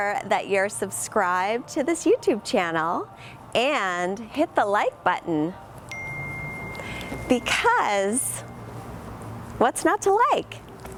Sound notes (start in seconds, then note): 5.9 bell dings